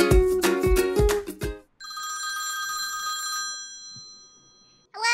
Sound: intro music; phone rings

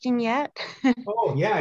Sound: chuckles

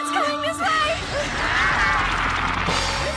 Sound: evil ghost squid noises

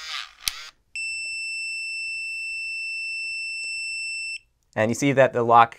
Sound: whirring sound; beeping

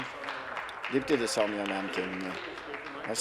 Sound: applause

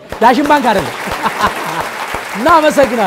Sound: applause

